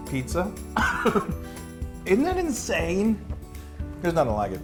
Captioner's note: laugh